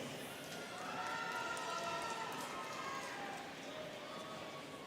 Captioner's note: students cheering